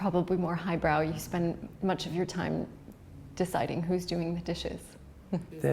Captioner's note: laughs